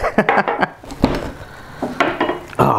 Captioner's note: laughs